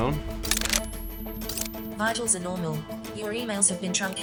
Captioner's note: cameras clicking